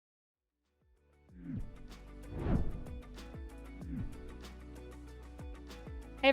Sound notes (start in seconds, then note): 1.4 upbeat music; 2.2 air whooshing